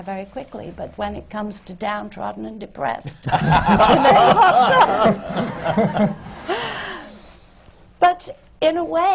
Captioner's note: laughter